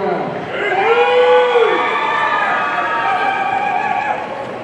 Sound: audience cheering

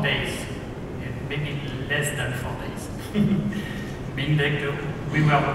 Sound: laughs

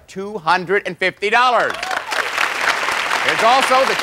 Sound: applause

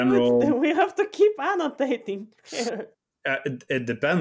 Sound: laughs

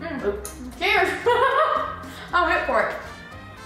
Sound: laughs

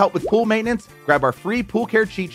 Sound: graphics popping

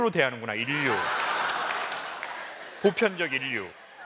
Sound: laugh

